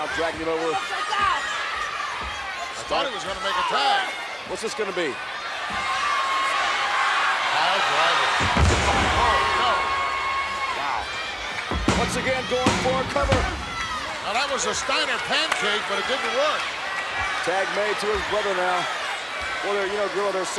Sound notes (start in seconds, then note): 7.2 crowd cheers